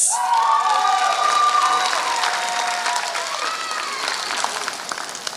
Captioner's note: applause